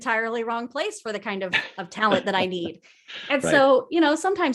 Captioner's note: laughs